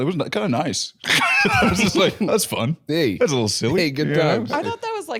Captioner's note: laughs